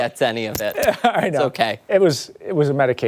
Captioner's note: laughter